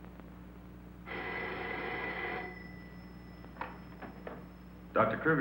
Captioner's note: phone ringing